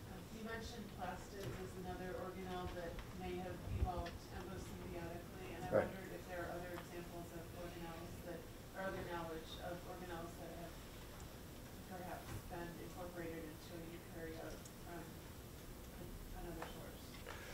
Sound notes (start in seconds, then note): 12.4 speaks faintly